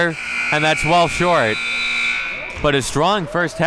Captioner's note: clock buzzes